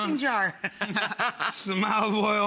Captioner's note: laugh